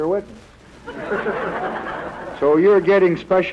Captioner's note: laughter